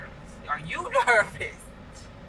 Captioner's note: chuckles